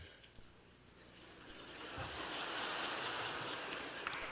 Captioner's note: applause